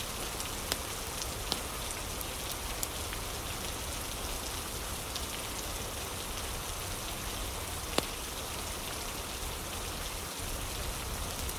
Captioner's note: fire crackling